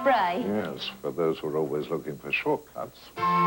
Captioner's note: maid, working-class English accent; Butler, drily